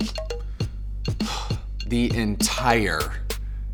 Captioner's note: sighs